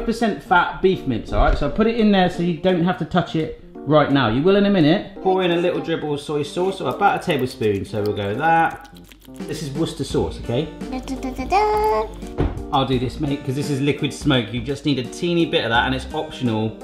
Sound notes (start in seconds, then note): 0.0 cheerful music; 6.3 sauce splashing; 10.4 sings a fanfare